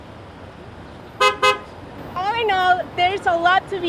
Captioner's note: horn honks